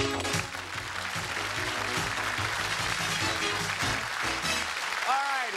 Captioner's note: cheers and applause